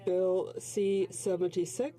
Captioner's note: speaking in French